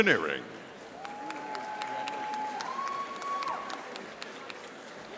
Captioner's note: audience applauding